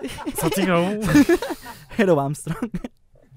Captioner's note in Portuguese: risos